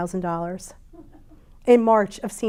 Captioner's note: audience member chuckles